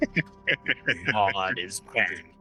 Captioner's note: laughing